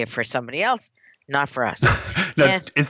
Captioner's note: laughs